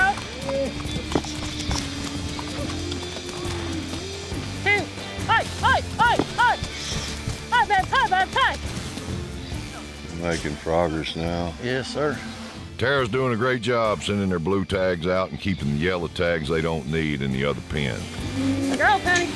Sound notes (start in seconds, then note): 0.0 hoof beats; 7.2 continues shouting